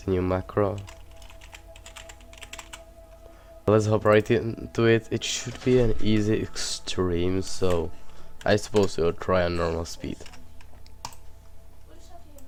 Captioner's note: typing